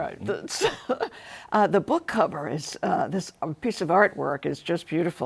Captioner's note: laughs